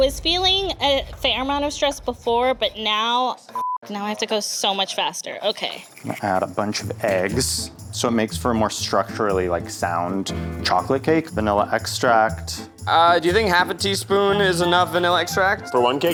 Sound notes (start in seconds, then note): 3.5 beep